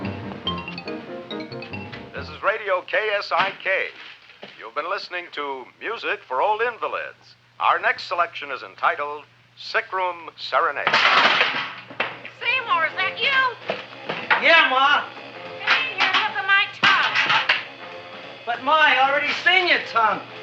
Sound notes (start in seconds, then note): 1.8 radio Announcer; 11.0 pot clanging